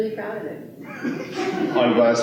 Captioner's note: laughter